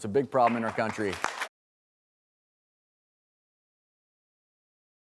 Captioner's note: audience clapping